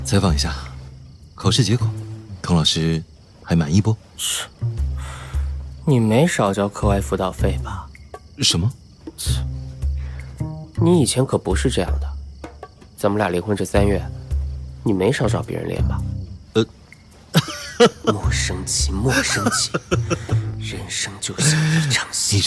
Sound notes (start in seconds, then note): 10.3 scoffs; 17.3 laughs